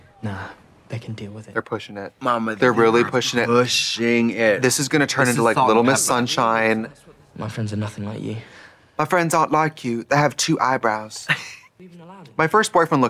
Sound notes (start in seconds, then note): 9.0 British accent